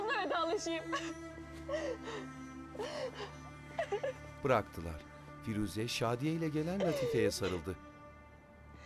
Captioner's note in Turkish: Ağlama sesi